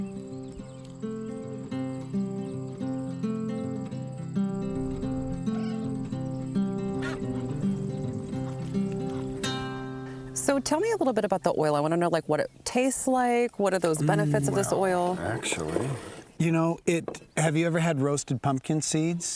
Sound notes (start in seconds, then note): 0.2 gentle acoustic guitar music; 5.4 cat meowing; 7.1 geese honking